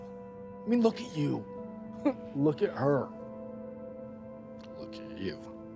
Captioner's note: laughs